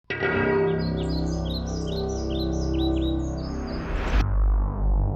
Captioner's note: birds chirping; creepy music